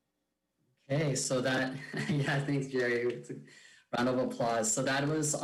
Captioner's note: speaks faintly